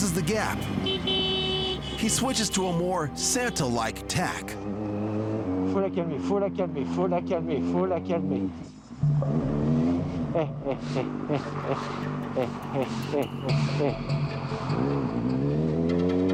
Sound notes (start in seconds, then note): 0.0 vehicle honking; 6.7 speaks in foreign language